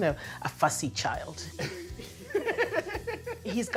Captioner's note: both laughing